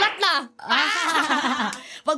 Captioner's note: both laughing